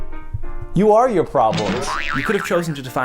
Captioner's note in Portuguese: música de palhaço; boing